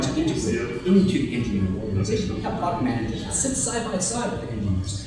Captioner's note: murmurs